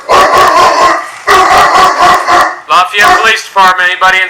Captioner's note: dog barking loudly